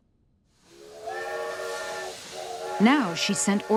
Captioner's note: train whistle blows